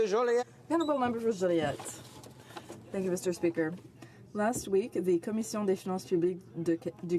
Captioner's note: speaking French